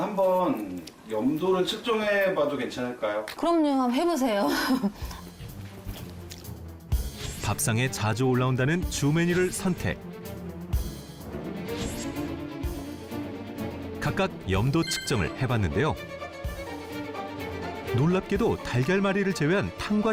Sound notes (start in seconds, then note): 5.2 voiceover